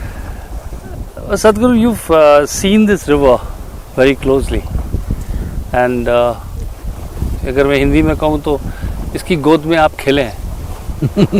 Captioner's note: speaks in Hindi – not transcribed